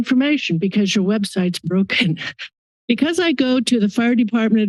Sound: chuckles

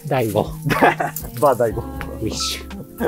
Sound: laughs

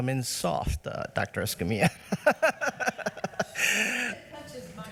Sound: laughs

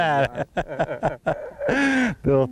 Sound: laughter

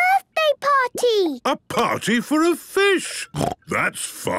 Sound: snorting

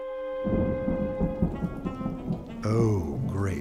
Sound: rain pattering, thunder rumbling

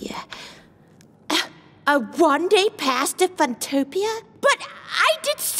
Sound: sighs loudly

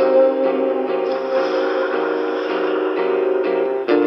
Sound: suspiro

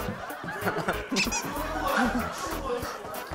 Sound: laughing

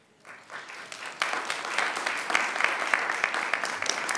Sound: audience applauding

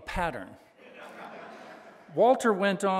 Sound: audience laughing

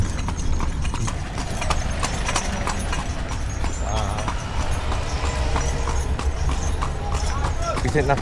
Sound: jingling and traffic noise continues

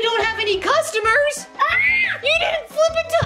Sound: Adley screaming

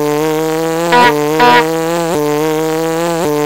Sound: honk honk

